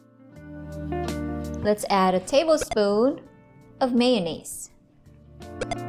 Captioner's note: blip